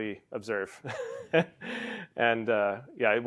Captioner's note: laugh